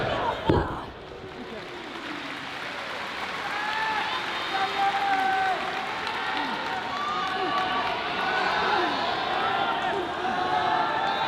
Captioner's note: applause